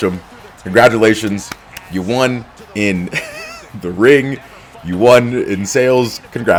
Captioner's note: laugh